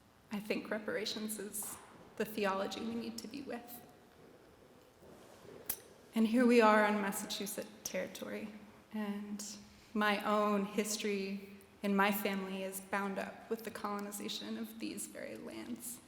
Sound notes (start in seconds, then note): none